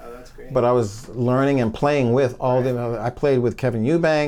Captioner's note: mumbling